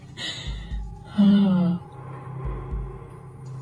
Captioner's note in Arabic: تنهّد